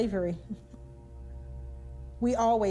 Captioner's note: chuckling